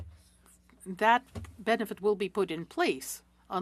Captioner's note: speaking French